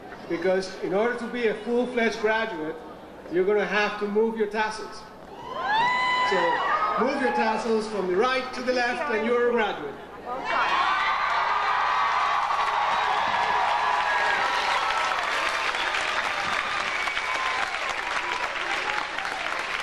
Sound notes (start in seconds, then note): 5.3 audience cheering; 10.5 audience applauding and cheering